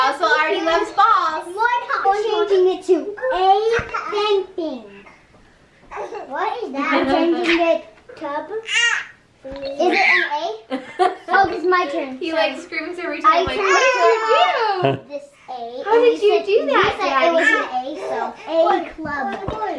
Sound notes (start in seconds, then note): 2.3 children playing; 2.3 laughs